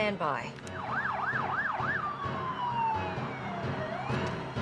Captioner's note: firetruck engine sirens; suspenseful music